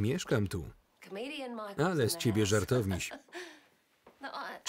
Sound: laughs loudly

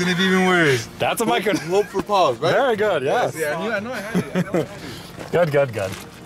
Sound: laughter

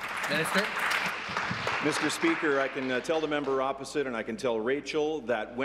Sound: applause

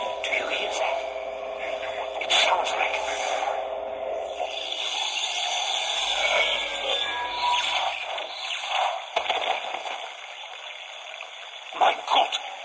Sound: loud static and noise is heard

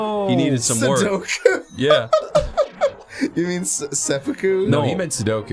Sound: laughs

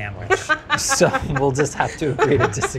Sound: laughs

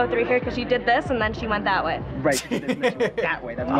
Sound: chuckles

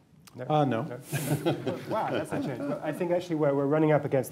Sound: laughter

